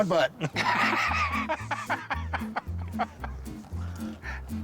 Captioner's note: laughter